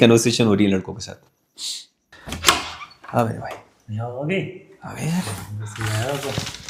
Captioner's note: someone knocks on the door